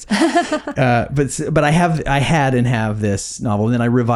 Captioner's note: laughing